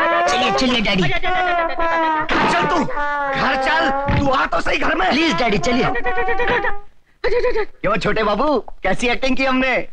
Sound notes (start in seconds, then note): 6.0 murmuring